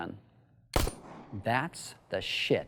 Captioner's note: gunshot